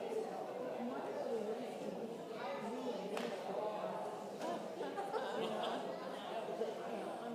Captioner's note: congregation indistinctly chatting continues